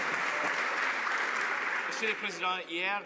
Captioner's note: some Applause